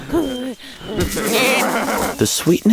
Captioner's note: sheep bleat excitedly